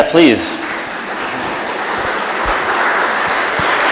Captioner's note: audience applauds